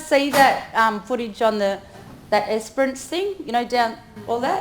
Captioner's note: speaks in foreign language